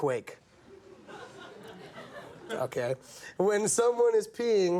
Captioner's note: audience murmuring